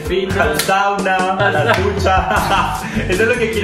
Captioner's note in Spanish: risas